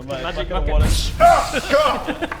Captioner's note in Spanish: splash